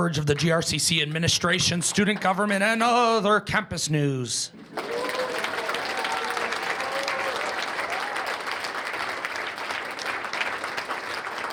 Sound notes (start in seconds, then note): 4.6 cheers and applause